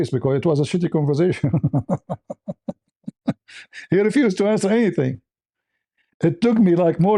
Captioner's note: laughter